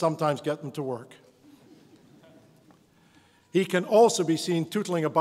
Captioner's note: audience laughs